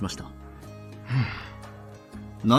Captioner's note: sigh